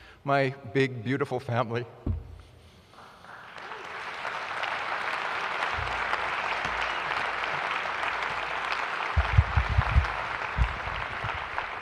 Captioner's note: applause